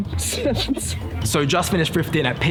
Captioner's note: laughs